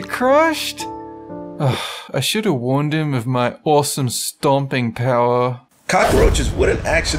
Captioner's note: sigh